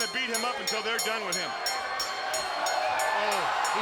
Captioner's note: bell ringing; audience cheering